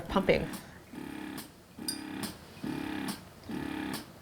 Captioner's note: pump whirring